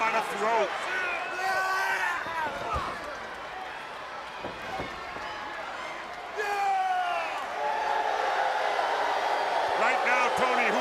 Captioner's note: crowd chatter